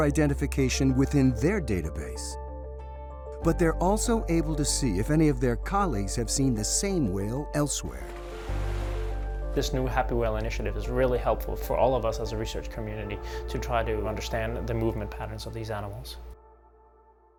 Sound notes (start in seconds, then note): 7.8 water splashing